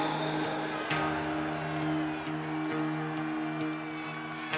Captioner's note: crowd cheering